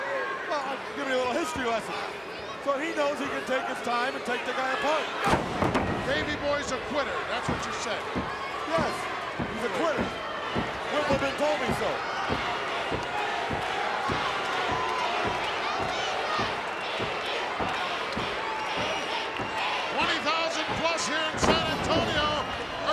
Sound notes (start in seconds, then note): 12.3 crowd yelling; 12.3 foot kicking